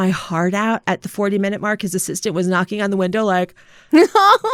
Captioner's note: laughter